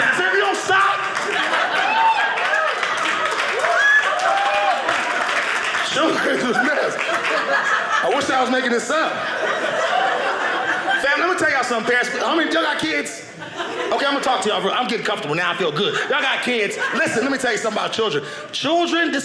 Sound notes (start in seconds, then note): 1.7 audience clapping; 9.3 audience laughing